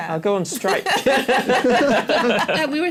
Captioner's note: laughter